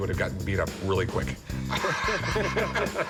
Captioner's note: laughter